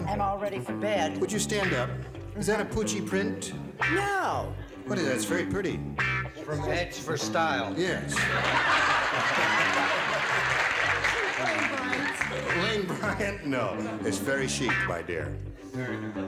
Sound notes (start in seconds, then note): 8.1 laughter; 9.0 applause